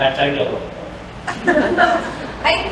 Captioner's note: laughter